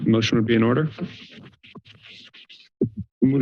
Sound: silence

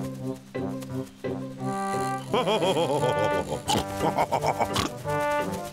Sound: chuckling, snorting

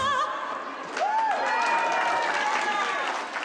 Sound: cheers and applause

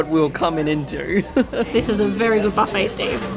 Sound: laughs

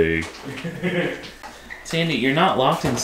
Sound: laughter

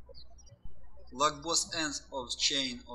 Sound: birds chirping

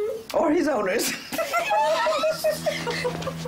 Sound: laughs

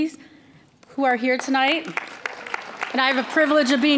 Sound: applause

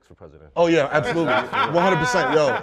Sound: laughter

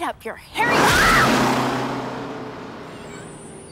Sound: screams; brakes squeak

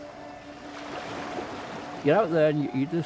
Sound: water splashing

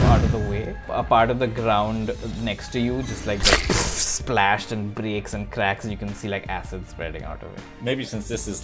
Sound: splash

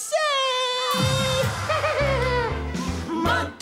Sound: laughter

